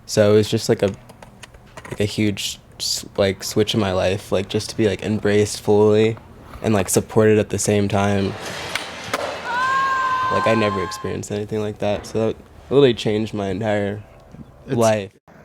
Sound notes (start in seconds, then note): 9.2 cheering